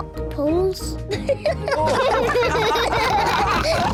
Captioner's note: all giggle